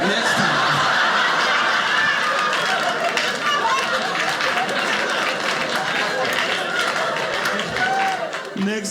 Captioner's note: audience laughing